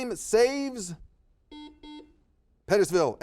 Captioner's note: buzzer beeps